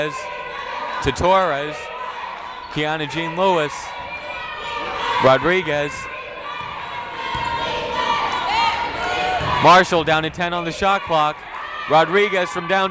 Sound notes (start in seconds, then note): 6.8 cheering